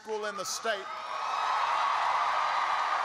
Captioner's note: applause